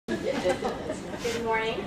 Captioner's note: laughter